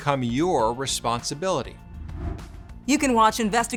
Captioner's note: air whooshing